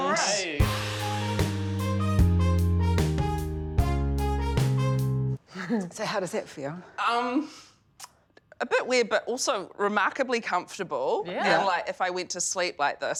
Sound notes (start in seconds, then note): 0.6 cheery music; 6.1 chuckles